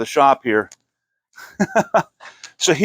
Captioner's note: laughing